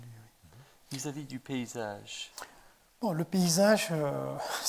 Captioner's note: speaking in French to Abderrahmane; speaking in French